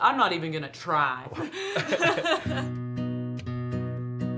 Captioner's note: laughing